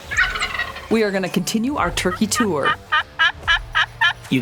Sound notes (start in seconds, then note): 0.0 turkey gobbling; 2.9 turkey calling